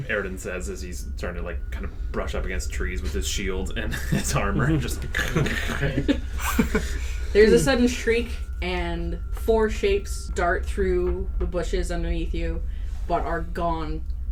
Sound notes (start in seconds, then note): 3.8 chuckles in the background; 3.8 chuckles; 5.1 does some mouth sound effects, big stomping and scraping